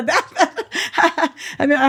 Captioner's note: laughs